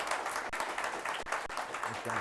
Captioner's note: applause